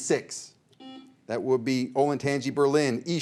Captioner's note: buzzer beeps